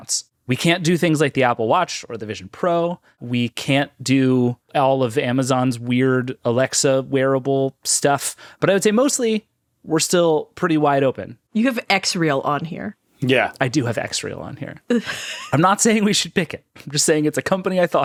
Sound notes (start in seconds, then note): 14.4 laughing